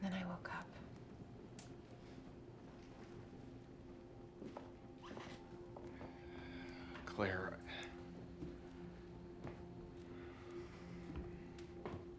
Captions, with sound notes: Then I woke up. (gentle music) (fire crackling) (footsteps retreating) - Claire? (gentle music)